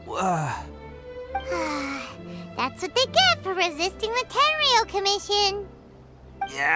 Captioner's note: sigh